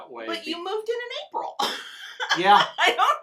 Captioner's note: laughs